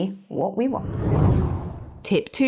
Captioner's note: air whooshing